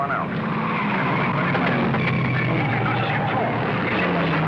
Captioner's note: tires skidding